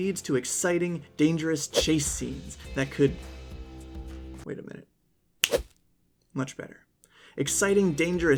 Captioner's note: snap